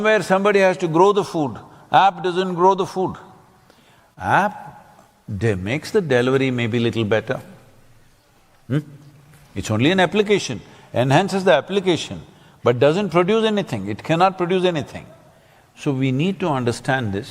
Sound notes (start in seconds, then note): none